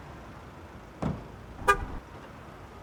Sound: taxi door closing

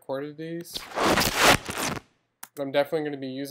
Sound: fabric rubbing and tearing

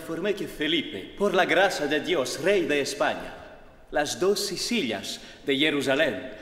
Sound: man speaks in a foreign language

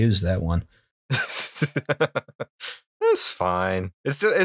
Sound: laughter

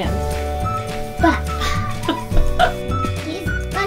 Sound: giggles

